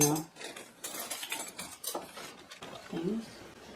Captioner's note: sound of flatware clinking